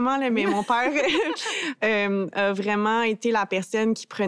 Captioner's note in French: rires